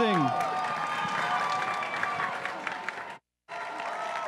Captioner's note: crowd cheering and applauding